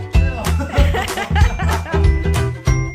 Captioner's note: laughter